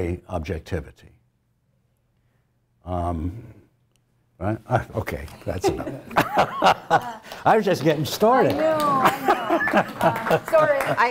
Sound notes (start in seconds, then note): 6.0 laugh; 10.3 applause